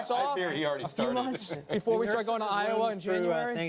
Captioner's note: laughter